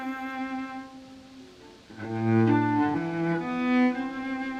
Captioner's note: leaves rustling